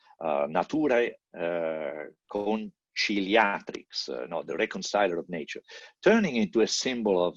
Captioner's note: non-english